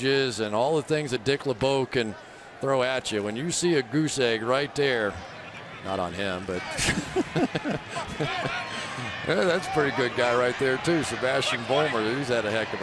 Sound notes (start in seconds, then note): 6.7 laughing